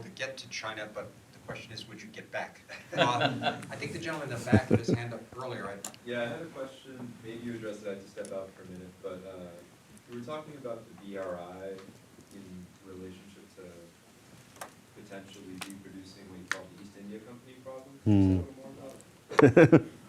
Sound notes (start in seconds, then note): 2.7 all laughing